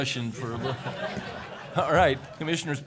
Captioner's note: laughter